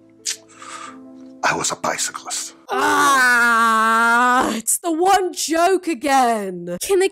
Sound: collectively groans

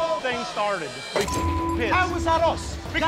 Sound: beep

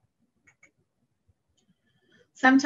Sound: mouse clicking

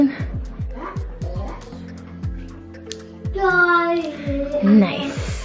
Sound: boys chattering in background

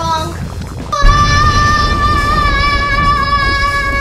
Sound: yelling

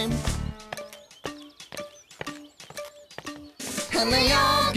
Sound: ticking

